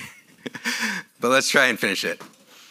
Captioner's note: laughs